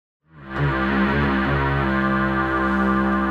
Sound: droning

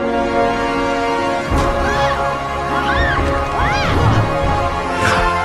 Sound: Harley screams

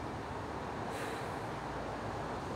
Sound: sighs

